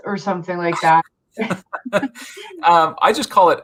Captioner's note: chuckles; laughs